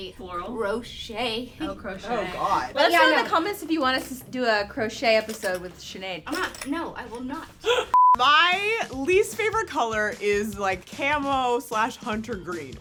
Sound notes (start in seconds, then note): 7.9 beep